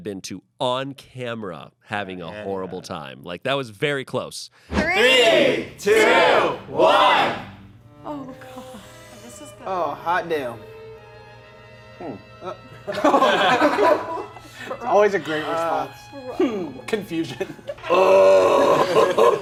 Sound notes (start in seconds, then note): 12.7 everyone laughs